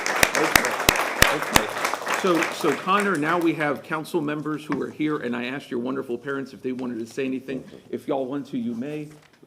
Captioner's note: applause